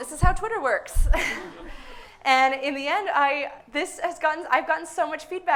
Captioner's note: suppressed laughter